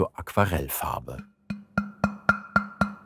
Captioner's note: knocking